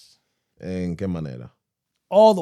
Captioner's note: speaking In Foreign Language